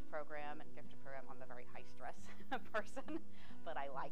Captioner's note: laughing